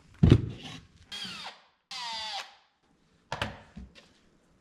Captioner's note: drill whirs